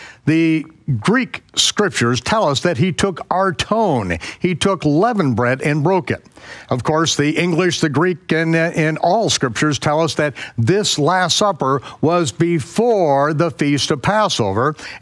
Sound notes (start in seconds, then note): 3.2 speaks in foreign language